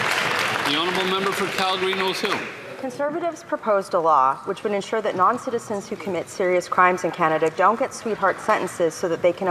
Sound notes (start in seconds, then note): 2.5 some Applause